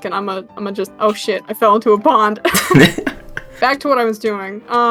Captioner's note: laughing